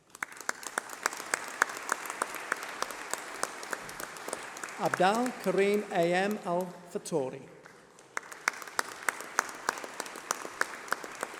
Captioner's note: applause